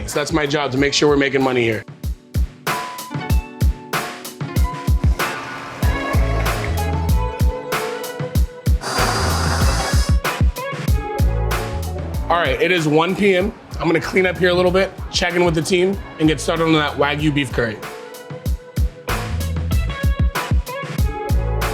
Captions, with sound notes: So that's my job to make sure we're making money here. [mellow groove music] [blender whirring] All right, it is 1:00 PM. I'm gonna clean up here a little bit. Check in with the team and get started on that Wagyu beef curry. [mellow groove music]